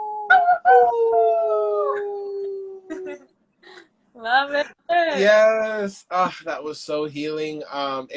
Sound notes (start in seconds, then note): 2.8 giggles